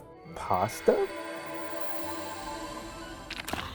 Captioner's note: magical chimes